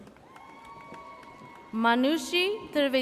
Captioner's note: audience cheers